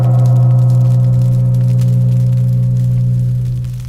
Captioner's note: crackling